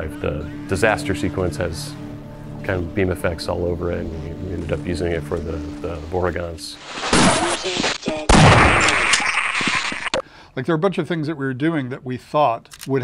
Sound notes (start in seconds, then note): 6.7 gunshots; 8.3 vortigaunt yelling